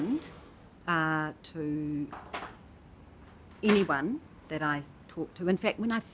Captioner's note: metal clatters